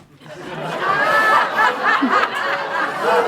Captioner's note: much laughter